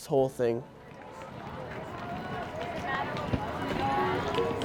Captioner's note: people talking